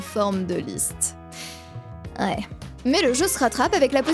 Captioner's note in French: soupire